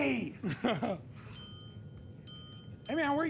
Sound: ding

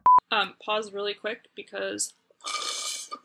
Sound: sound of straw slurping

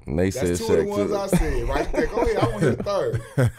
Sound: laughing

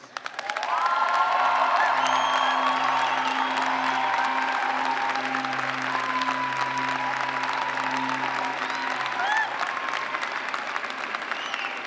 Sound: cheers and clapping

